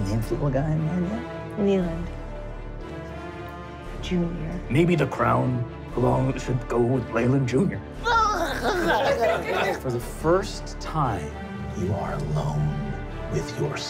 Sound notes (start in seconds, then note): 8.3 baby talk